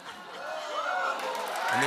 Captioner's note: cheers and applause